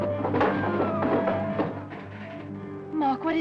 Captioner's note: body thuds